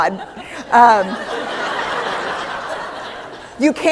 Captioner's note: laughter